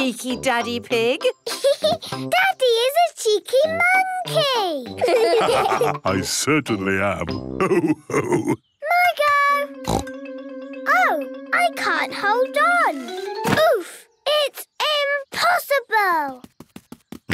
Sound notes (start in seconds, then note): 2.1 laughs; 5.0 all laugh; 9.8 snorts